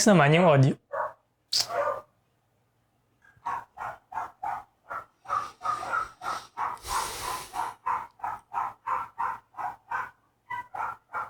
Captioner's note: dog barking